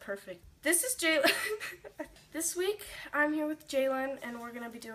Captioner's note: laughs